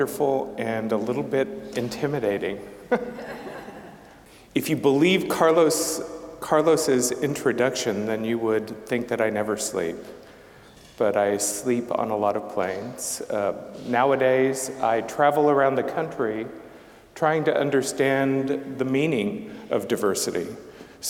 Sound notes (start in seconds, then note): 2.9 scattered laughing